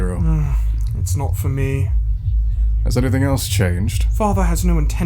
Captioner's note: sighing